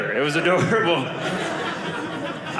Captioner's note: audience laughing